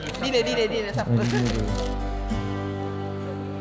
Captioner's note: laugh